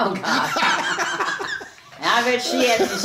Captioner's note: both laughing